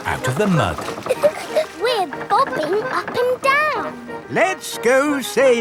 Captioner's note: chuckles